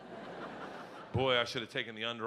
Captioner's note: audience laughing